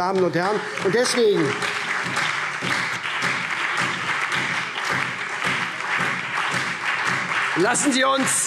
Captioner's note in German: Lebhafter Beifall SPD